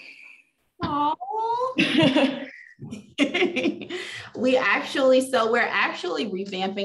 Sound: laughs

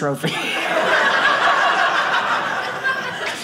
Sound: audience laughing

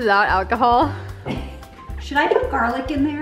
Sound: laughs

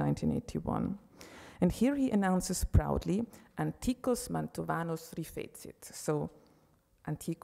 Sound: speaking Italian

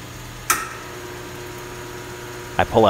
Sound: switch clicks, transformer hums

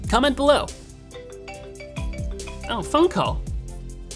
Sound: iPhone ringtone

